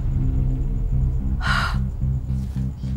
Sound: sigh

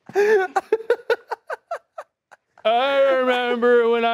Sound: laughs

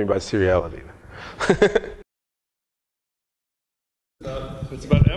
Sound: laughs

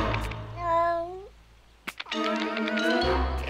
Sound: cat moans; playful music

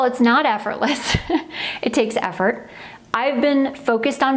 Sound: chuckles

